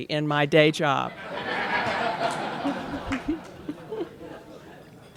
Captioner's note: laughter